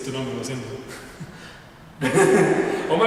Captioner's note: awkward laugh